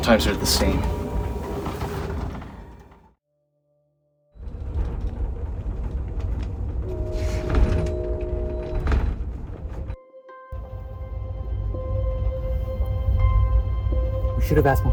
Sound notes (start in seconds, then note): 4.4 train rumbling; 6.8 horn blaring; 9.9 light music